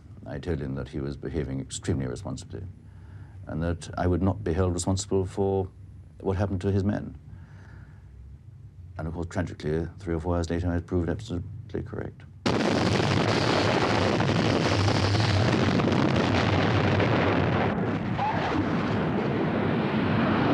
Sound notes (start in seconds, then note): 12.4 weapons booming